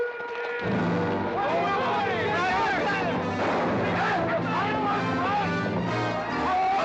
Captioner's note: dramatic music; men yelling